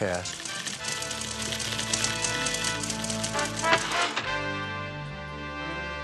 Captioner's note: typewriter clacking; dramatic music